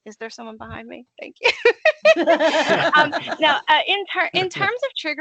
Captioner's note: laughing